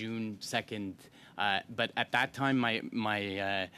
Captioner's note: speaking French